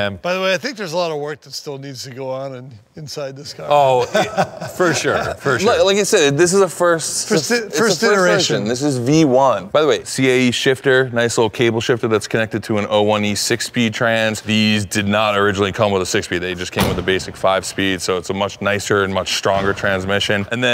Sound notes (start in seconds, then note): 3.6 Ken laughing